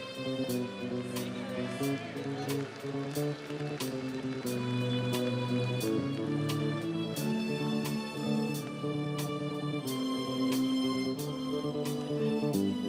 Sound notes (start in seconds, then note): 0.2 audience cheers; 1.6 commencement music